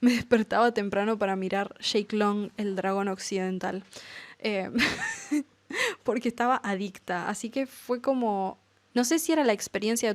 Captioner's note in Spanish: risas